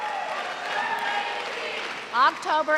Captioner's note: cheers and applause